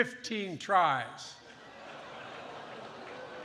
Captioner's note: applause